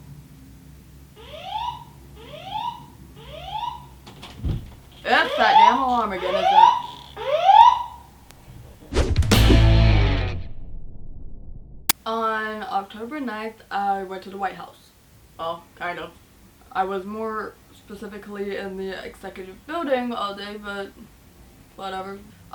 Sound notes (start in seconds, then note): 1.2 now i hear the fire alarm; 4.0 door opens; 7.2 very annoying alarm